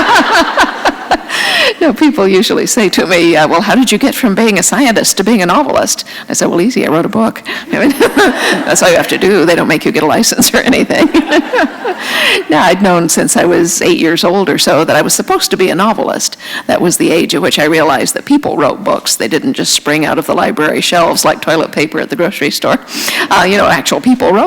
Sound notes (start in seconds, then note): 0.0 laughter; 7.8 laugher; 10.7 laughter